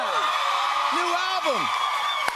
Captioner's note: cheers and applause